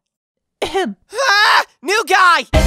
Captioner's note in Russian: кашель